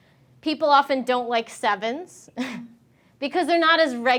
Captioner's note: chuckling